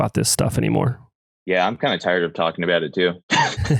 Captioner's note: laughs